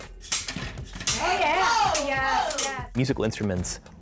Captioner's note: all cheering